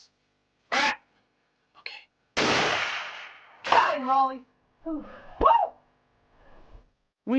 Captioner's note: whispering